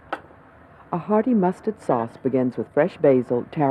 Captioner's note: voiceover